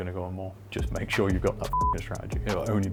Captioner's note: beep